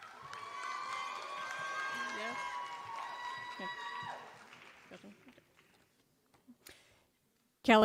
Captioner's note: applause